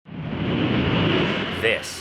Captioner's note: plane engine roaring